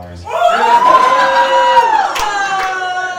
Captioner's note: cheering